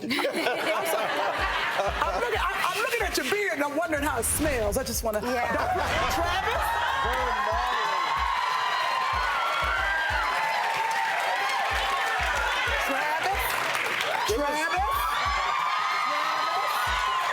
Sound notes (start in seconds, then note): 0.0 audience laughing; 5.1 audience laughing; 7.0 audience applauding; 15.2 audience applauding